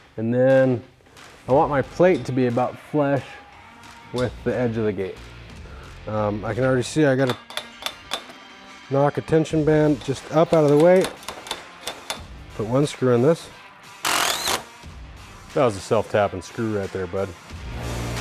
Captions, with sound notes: And then I want my plate to be about flash with the edge of the gate. I can already see I gotta knock a tension band, just up out of the way. Put one screw in this. (mechanical whirring) That was a self tapping screw right there, bud.